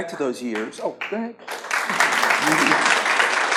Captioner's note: audience claps